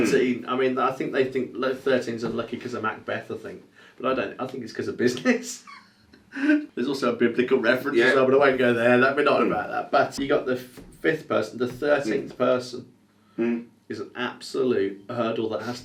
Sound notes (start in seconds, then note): 5.6 chuckles